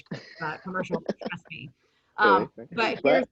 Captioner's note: chuckles